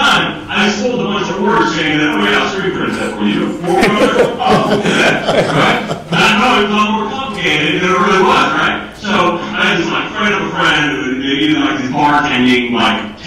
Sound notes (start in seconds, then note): 5.4 laughing